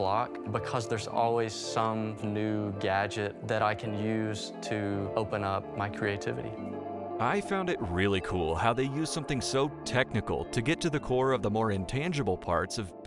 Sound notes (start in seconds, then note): 6.9 voiceover